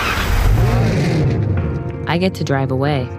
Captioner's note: engine revs